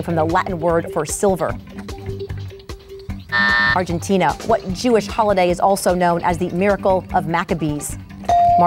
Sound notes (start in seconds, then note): 3.3 buzzer going off